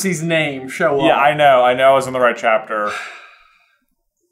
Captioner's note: sigh